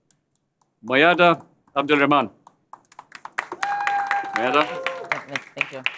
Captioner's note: applause